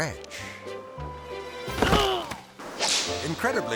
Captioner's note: groaning; melodic music